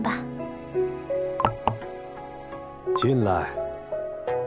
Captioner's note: knocking door